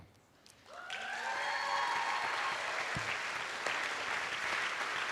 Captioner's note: attendees applauding